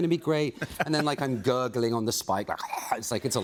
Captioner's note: gurgling